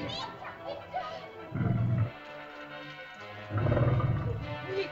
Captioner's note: children's frightened chatter; dinosaur growls; suspenseful music; dinosaur growls; frightened chatter; suspenseful music